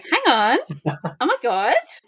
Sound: laughs

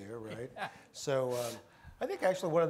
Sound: laughs

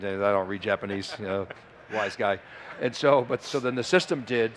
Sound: laughs

